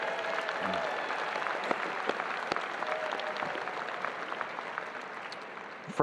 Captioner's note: audience applauding and cheering